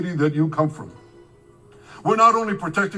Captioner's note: speaking in a foreign language